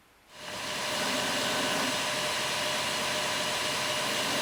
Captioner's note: grinding sound